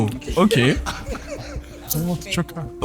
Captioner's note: laughs